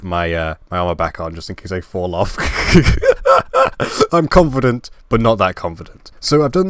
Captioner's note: laugh